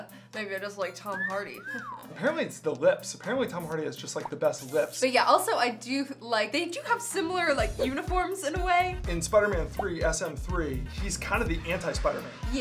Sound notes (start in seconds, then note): 1.0 whistle